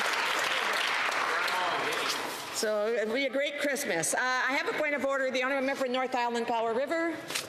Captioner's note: some Applause